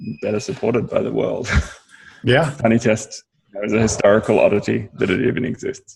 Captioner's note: laughs